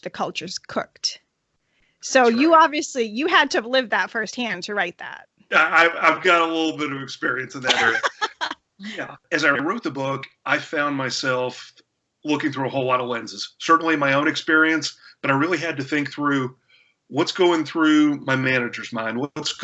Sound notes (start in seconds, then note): 7.3 laughter